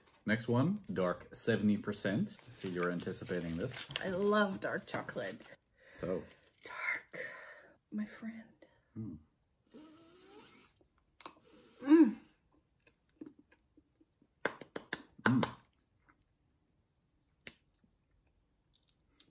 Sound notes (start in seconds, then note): 9.7 sniffing sound; 11.3 more sniffing sound; 14.4 rhythmic clapping